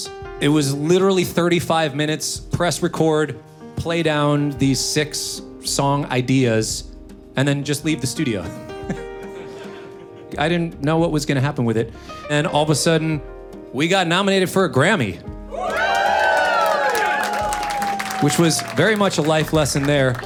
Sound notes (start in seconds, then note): 9.2 audience members laugh; 9.3 laughs; 15.5 audience cheers